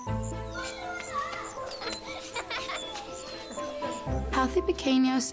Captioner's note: children yelling, laughing